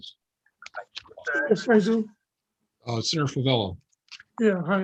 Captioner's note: faintly speaking